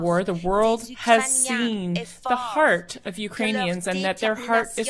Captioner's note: speaking French